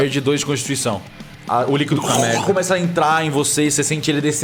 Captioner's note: drowning noises